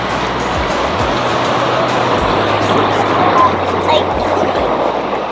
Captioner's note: water crashing on rocks